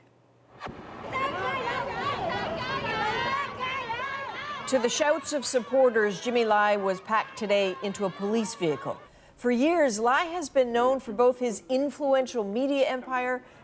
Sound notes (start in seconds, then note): 3.9 crowd noise